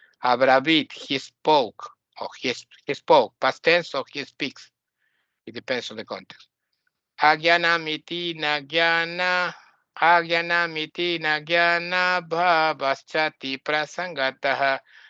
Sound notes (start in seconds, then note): 6.8 chants